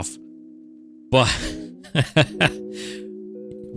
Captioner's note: laughs